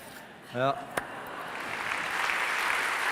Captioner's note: applause from the audience